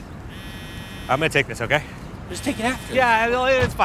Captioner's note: phone buzzes